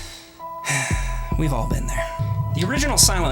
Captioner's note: sigh